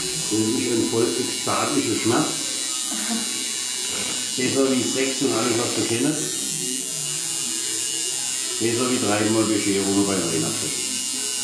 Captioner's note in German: tätowier geräusch